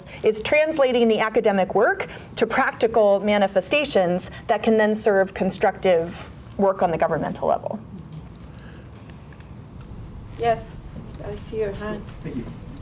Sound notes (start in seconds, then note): none